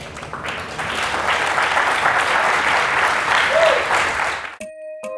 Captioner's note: applause